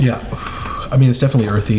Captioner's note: none